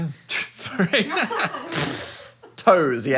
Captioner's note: laughing